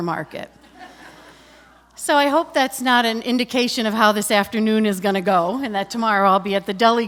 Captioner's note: laughter